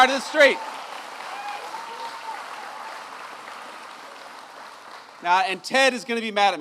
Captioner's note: applause